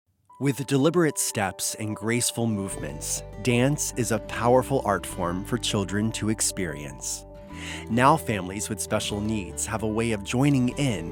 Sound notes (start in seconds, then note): 0.6 voiceover